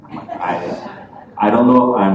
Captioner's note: laughter